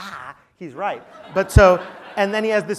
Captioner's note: laugh